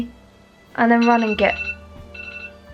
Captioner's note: alarm goes off